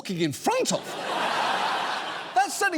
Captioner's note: audience laughs